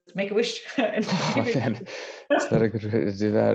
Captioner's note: laugh